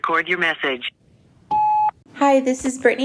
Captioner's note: phone beeping